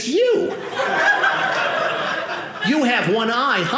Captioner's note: audience laughing